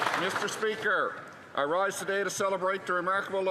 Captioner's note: some Applause